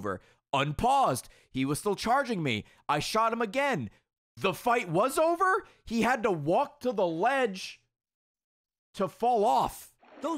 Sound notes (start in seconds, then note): none